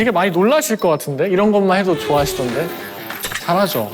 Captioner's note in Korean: 부웅